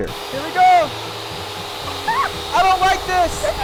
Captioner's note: saw running loudly